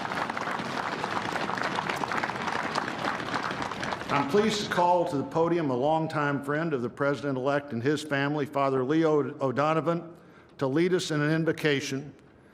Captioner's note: applause